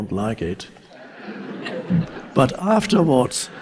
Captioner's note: audience laughs